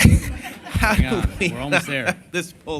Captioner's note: laughter